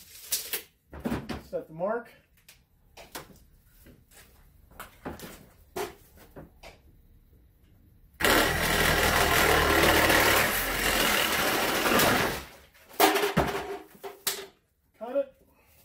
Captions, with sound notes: Set the mark. (saw buzzing) Cut it.